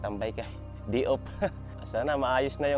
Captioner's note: chuckles